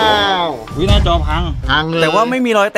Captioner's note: Pat